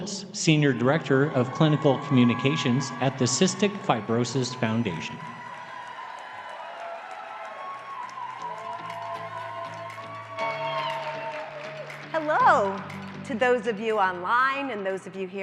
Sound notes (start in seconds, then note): 5.5 cheering, applause